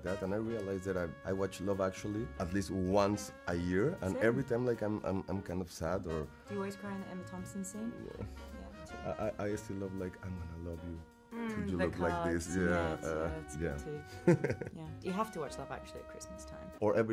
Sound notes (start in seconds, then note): 14.1 Diego giggling